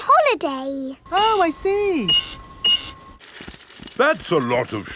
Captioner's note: cash register beeping